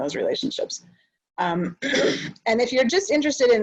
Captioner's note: clears throat